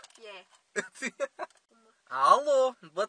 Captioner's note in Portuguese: Risos